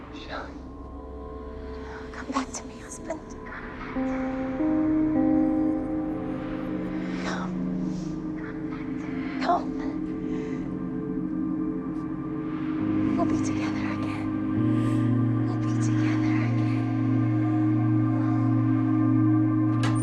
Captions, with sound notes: - Shelly? - Come back to me husband. (eerie music) (wind whistling) Come. Come back to me husband. Come. We'll be together again. We'll be together again. (eerie music)